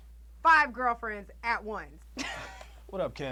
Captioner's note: chuckles